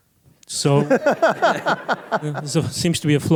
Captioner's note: laughter